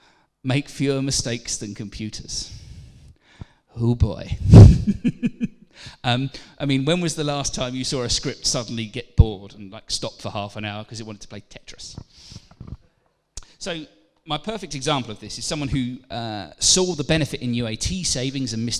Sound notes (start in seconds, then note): 4.6 laughs